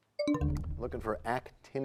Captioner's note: bell chimes, time expires